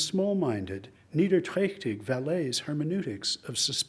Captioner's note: speaks in foreign language